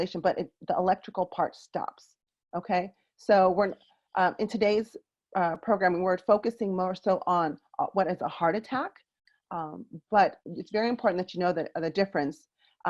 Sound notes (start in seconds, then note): none